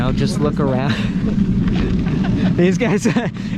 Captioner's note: laughing